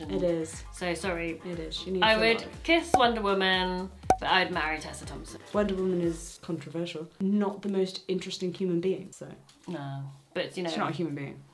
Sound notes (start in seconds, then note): 4.1 cork popping